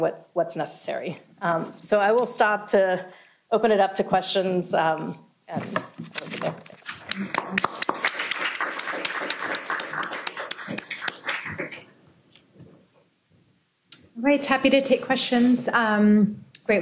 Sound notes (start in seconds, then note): 7.0 applause